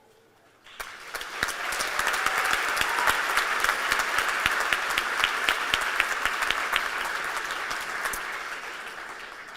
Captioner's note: applause